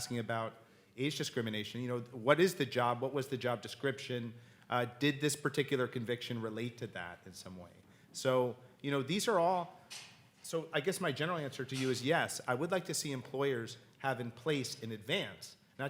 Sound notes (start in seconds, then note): none